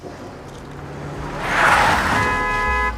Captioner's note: vehicle approaching; tires screech; horn honking